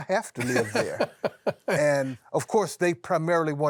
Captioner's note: laughs